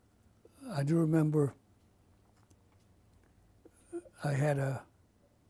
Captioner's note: pauses for 3 seconds